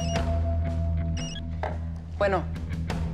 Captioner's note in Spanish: Suena un celular